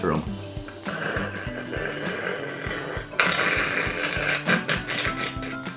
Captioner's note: snoring softly